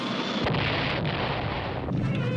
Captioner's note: boom